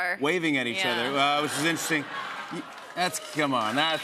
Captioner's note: laughter